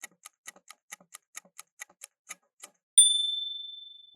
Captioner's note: timer ticking; ding!